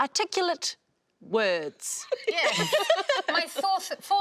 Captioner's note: laughing